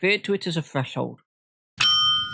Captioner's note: ding